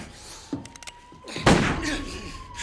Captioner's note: police sirens wailing; gunshot blares